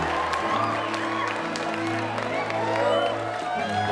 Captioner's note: all cheering